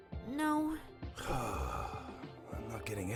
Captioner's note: exasperated sigh